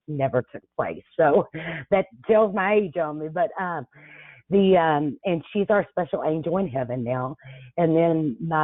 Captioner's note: chuckles